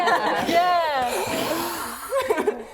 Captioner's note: laughing; flame thrusters